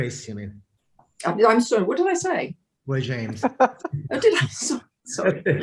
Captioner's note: laughs